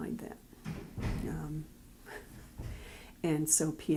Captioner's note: background door closing